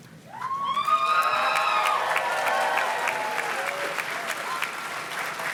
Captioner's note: audience cheers and claps